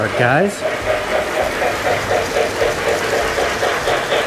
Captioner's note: train whirs